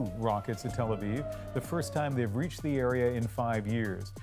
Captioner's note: sirens